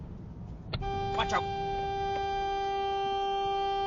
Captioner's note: honnnnnnk